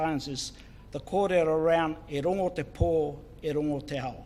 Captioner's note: foreign Language